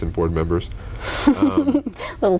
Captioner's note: laughter